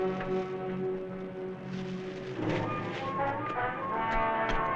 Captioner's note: rustling